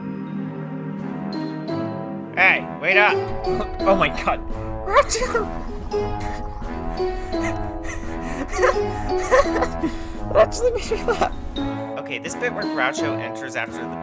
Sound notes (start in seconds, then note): 4.4 laughs; 4.6 even more laughing